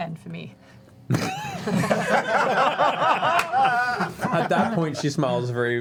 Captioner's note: laughter